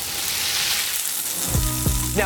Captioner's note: oil sizzling